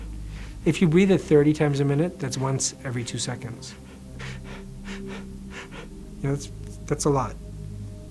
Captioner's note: breathes audibly